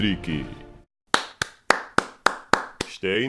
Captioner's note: aplause